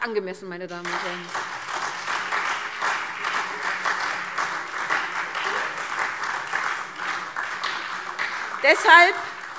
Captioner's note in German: Beifall SPD, Freie Demokraten und DIE LINKE